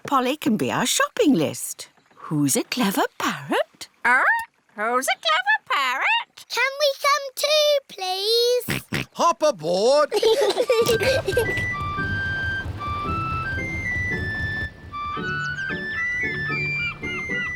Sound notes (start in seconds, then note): 8.7 snorts; 10.1 peppa and george giggling